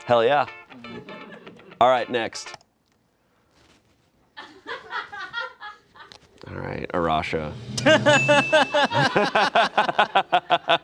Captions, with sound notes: Hell yeah. All right, next. (friends laugh) All right, Arasha. (all laugh)